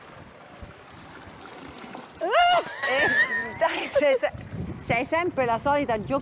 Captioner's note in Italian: risate